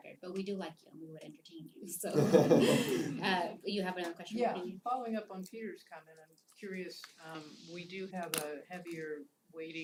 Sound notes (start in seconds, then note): 2.1 laugh